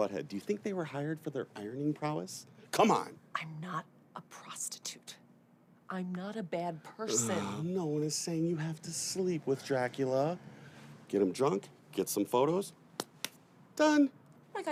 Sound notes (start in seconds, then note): 7.1 Gabe groans; 13.0 Gabe claps